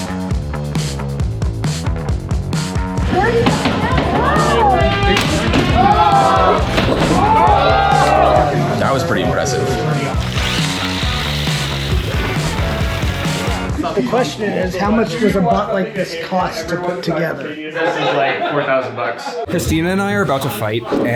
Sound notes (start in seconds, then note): 0.3 upbeat music; 3.2 robots thudding; 4.3 robots whirring; 10.1 upbeat music